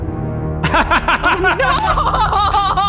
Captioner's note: laughing